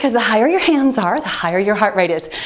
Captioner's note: timer beeps